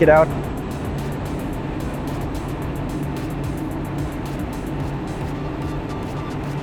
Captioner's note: engine droning; energetic music